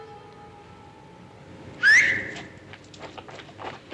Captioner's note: whistles